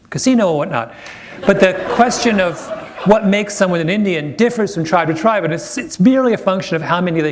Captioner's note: laughter